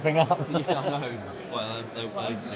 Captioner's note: laughing